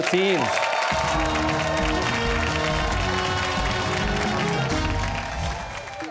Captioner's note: cheers and applause